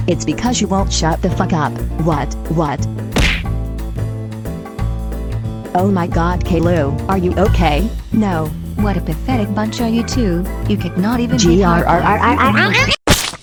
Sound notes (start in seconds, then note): 3.2 crash; 11.8 growls; 13.0 splat